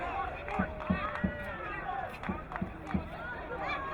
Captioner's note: crowd cheering